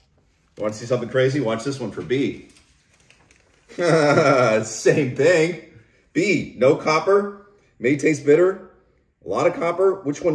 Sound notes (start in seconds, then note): 3.6 laughing